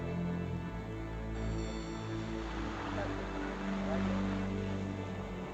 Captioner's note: speaking in Spanish